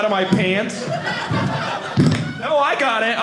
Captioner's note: audience laughing